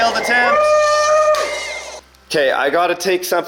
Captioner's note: cheering